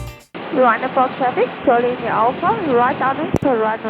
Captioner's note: radio